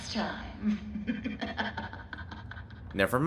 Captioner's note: Susie Angel making an Evil laugh